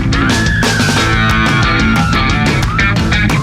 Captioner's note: squeals